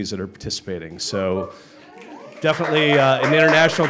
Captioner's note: applause